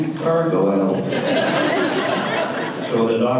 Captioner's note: audience laughter